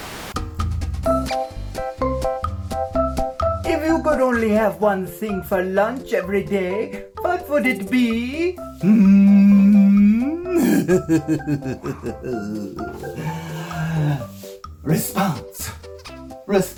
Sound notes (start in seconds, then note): 0.1 cheerful music; 10.4 chuckles